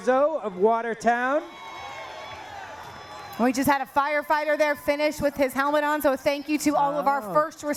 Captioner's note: cheering